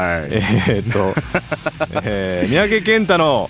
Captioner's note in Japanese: 笑い